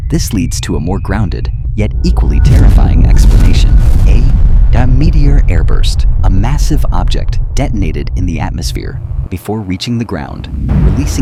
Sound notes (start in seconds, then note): 4.4 meteor airburst